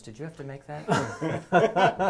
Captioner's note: laugh